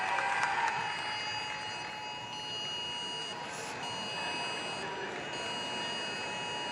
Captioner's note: beeping sounds